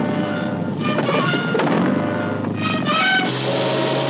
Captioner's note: motor roaring